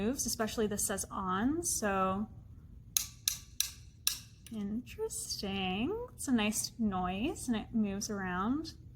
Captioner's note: sharp clicking noise